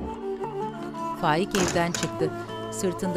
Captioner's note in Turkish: Kapı kapanma sesi